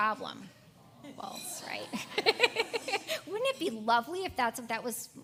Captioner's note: laugh